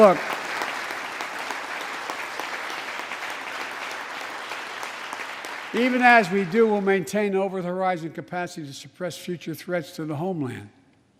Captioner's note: applause